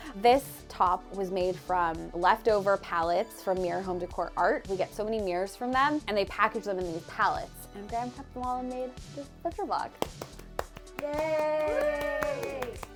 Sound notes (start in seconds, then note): 10.0 claps